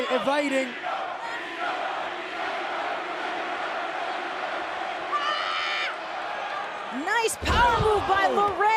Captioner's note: crowd cheering